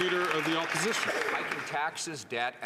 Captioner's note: some Applause